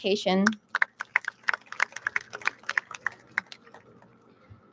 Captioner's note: audience claps